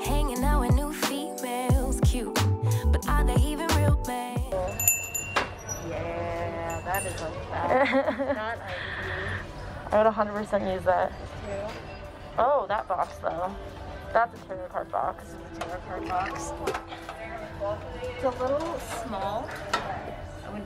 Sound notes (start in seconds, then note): 4.6 bell rings; 7.6 laughs